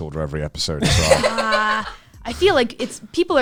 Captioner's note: laughs